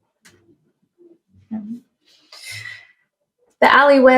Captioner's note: inhales